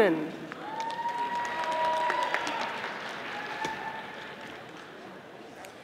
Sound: audience applauding

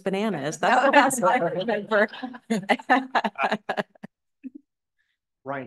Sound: laughter

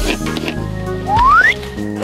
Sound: whistles

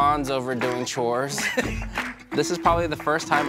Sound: mom chuckles

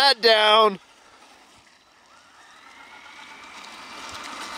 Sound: engine roaring

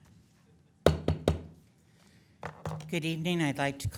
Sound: gavel thunks

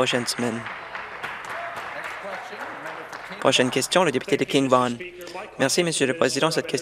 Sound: applause

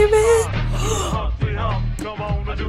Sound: gasping

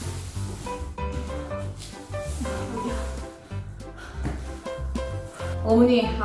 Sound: thumping

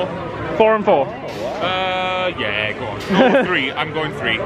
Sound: all laughing

